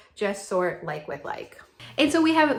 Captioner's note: none